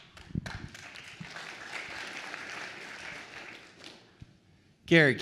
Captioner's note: attendees applauds